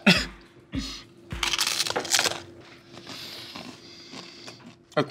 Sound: snorts; crunching

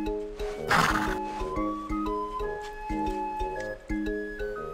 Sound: horse snorting

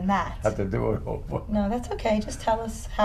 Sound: laughs

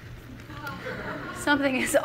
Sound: laughter from the audience

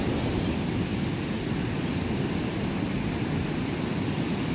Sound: the sounds of the ocean’s waves grows softer

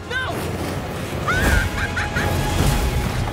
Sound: laughs

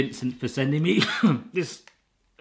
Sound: coughs

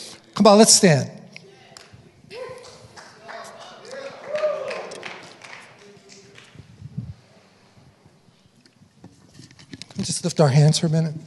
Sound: congregation cheering

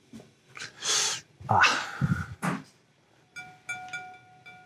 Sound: gasps

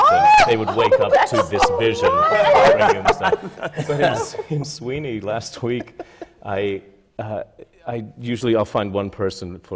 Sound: laughter

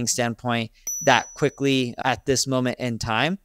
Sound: graphics ding

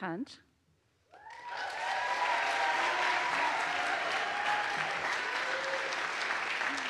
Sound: audience applauds; audience cheers

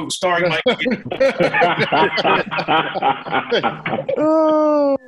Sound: laughter

